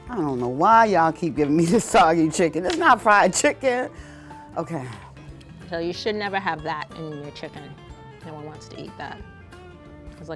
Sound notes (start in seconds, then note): 3.9 laughing